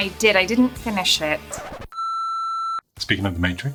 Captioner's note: record Scratch and Beep